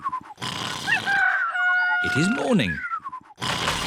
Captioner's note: cockerel crows